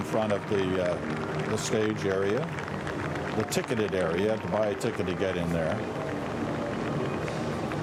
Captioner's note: applause